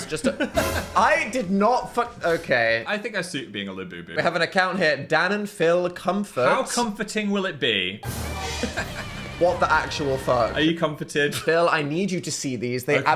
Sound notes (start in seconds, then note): 0.0 laughs; 8.0 dramatic music; 8.5 laughs